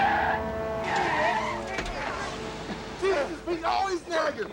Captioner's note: tires screeching; men shouting